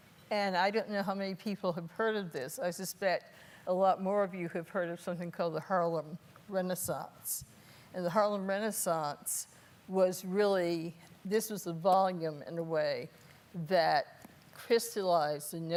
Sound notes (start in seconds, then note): none